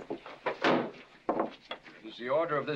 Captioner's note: bang